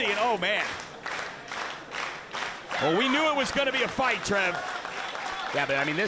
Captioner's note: applause